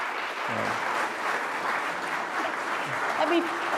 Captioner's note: applause